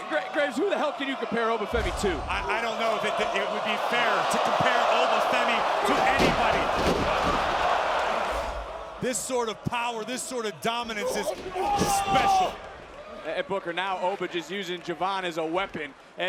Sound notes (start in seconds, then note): 6.5 audience cheering